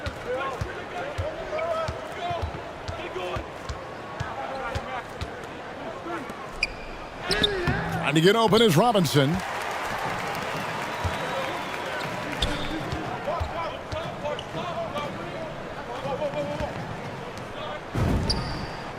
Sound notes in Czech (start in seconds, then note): 6.9 Potlesk; 12.0 Potlesk